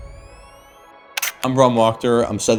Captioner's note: camera clicking